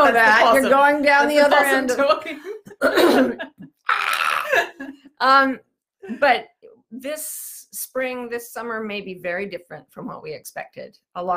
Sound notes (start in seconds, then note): 3.8 shrieks; 4.9 laughs